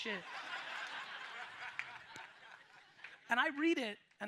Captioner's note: audience laughs